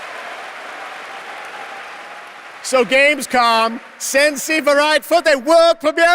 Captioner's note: applause